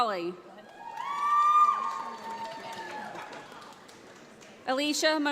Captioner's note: audience applauds